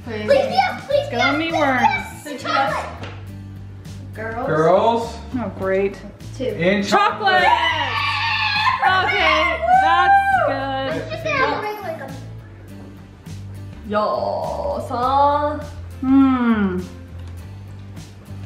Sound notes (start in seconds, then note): 7.4 screams